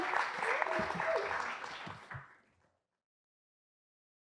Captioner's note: audience clapping